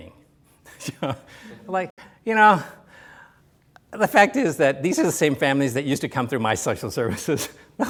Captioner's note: laughs